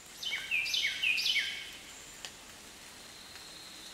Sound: bird chirping

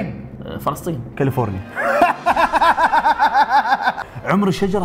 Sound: laughs

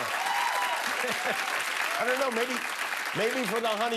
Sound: cheers and applause

